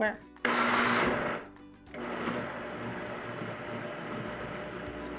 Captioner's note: blender whirring